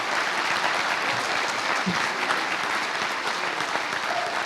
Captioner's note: applause